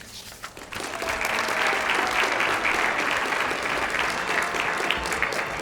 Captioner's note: applause